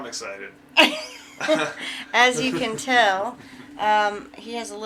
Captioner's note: laughing